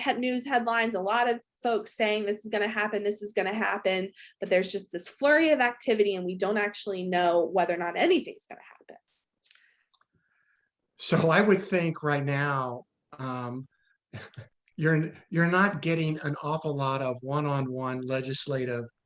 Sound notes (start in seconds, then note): 14.2 laughs